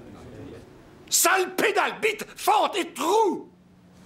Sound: yells

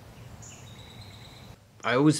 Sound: birds calling

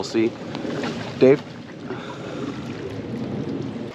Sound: paddles splashing

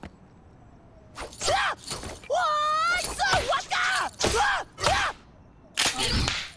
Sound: yelling

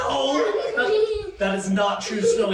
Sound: children laughing

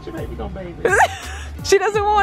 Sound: laughs

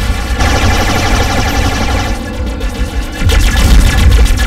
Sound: blasting

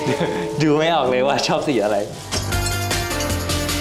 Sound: laugh

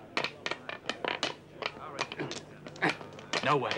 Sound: people chattering; clattering

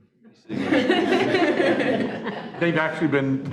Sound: laughing

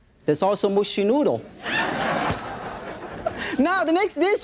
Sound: audience laughs

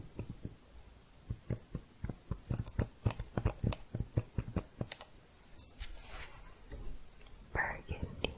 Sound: typing sounds

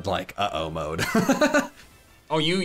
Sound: laughs

